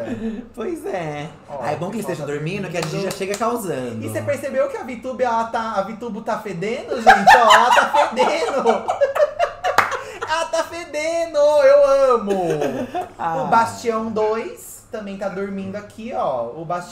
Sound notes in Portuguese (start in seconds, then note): 6.9 risadas; 7.0 gargalha